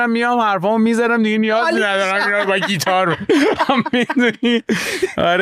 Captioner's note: laughs